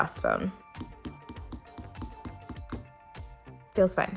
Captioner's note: taps